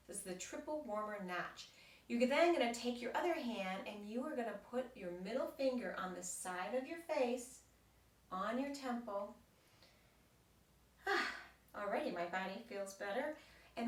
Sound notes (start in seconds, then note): 11.0 sighs